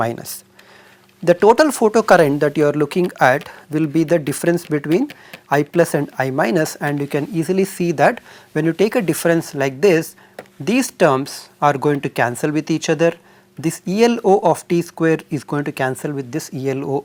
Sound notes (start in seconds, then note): 11.5 thermal noise